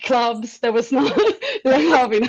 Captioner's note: laughing